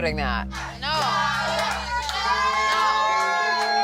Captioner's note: crowd cheering